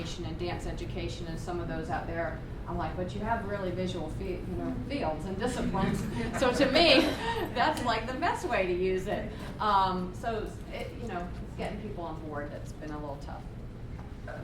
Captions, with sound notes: and dance education and some of those out there, I'm like, "But you have really visual "fields and disciplines." (laughter) So to me, that's like the best way to use it. So it's getting people on-board that's been a little tough.